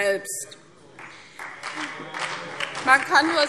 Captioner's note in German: Beifall CDU